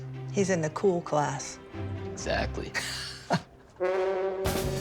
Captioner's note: laughs